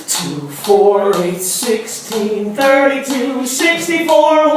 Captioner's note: none